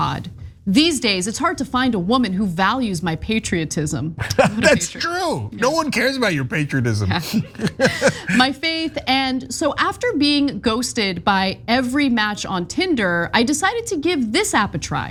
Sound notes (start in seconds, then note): 7.5 laugh